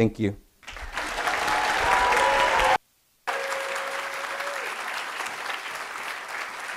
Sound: audience applauding and cheering

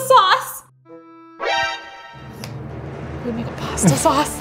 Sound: alert sound

